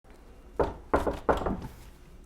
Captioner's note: knock, knock